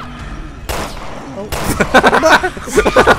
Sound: voiceover; gunshots; laughs

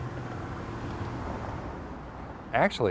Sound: heavy duty truck engine

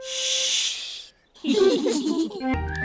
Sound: all giggle quietly

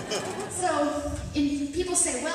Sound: audience laughter

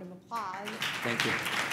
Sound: applause

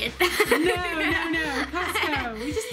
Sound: laughs

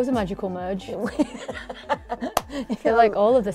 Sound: laughs

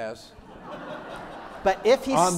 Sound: crowd laughs

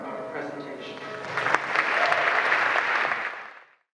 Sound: applause

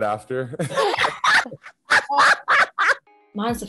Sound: laughing

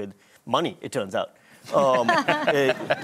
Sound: laughter

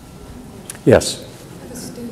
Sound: murmurs

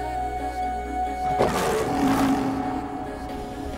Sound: Aslan roars

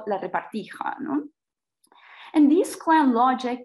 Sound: speaks in foreign language

